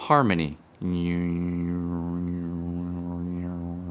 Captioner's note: hums